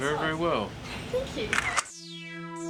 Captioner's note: camera shutters